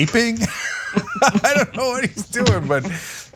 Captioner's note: laugh